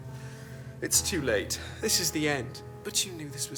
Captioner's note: sighs